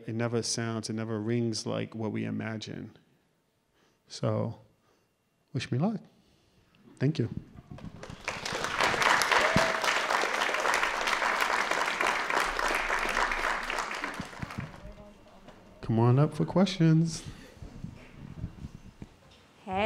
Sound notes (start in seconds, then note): 7.8 applause